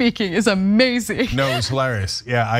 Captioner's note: laugh